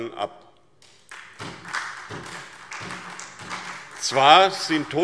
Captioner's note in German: Beifall SPD